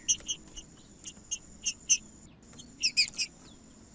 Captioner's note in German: trinca ferro cantando